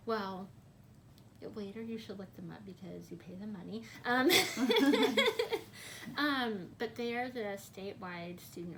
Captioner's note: laughs